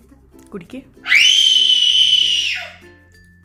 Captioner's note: baby crying